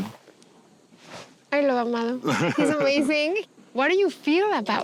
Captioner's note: laughs